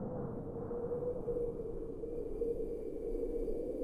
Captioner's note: wind whistling